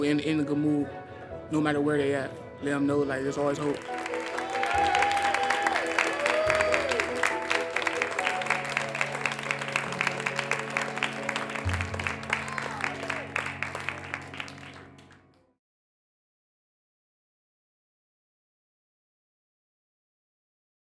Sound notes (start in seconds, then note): 8.3 cheering and applause